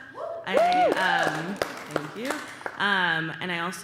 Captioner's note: applause and cheering